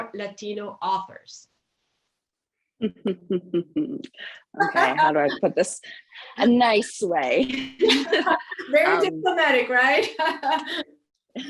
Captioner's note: laughs